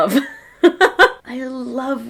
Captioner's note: laughs